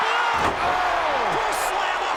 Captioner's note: crowd cheers